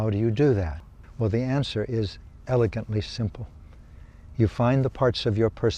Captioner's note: none